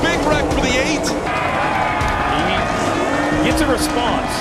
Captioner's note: crowd cheering